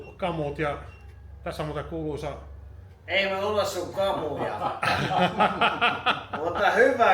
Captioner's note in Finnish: naurua